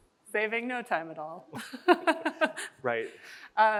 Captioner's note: chuckles